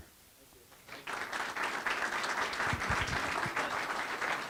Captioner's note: audience applauding